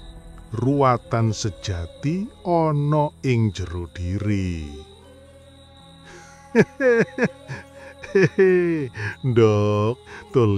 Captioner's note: laughter